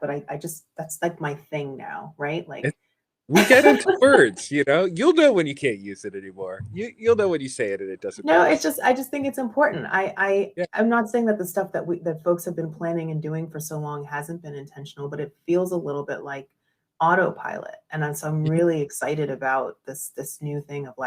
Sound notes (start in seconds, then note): 3.3 laughs